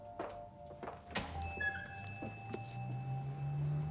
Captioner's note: bell dings